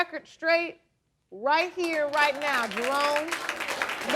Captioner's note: applause